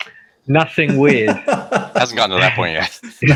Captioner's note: laughing